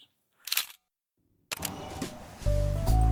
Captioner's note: camera shutter clicks; chill music